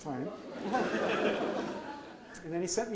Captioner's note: audience laughs